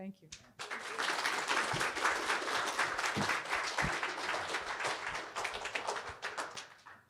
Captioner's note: attendees applauding